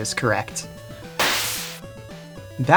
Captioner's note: teleport Noise